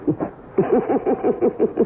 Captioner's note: laughs